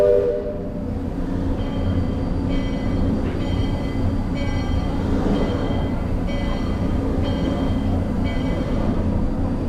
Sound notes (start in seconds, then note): 0.0 steam whistles; 2.4 bell ring